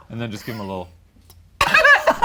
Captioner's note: laughs